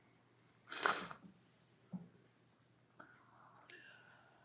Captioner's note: sniffling